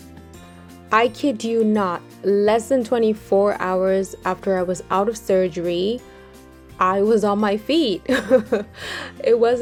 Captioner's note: chuckles